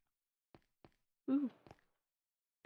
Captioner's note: quietly